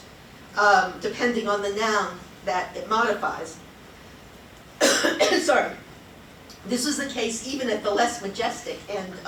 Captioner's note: coughs